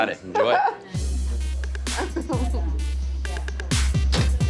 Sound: laughs

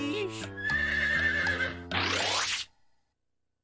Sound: horse whinnies

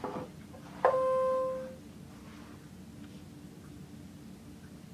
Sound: machine beeping

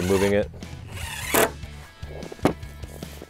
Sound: drill buzzes; rock music continues

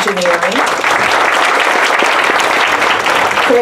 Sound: applause

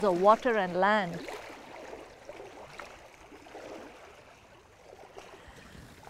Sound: water lapping rocks

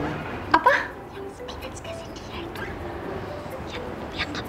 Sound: whisper

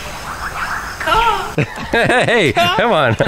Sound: imitating bird caw

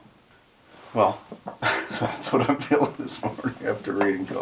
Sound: laughs

